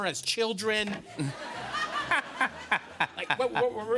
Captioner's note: laughter